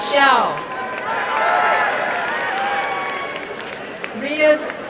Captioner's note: crowd cheering and applauding